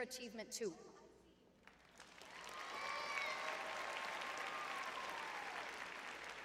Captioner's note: cheers; applause